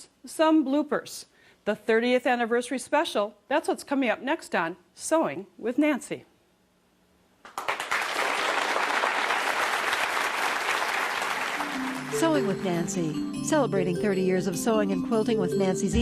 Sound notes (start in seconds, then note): 7.4 applause